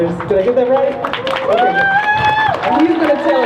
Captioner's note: crowd cheering